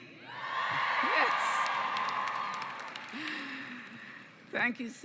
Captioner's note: cheering and applause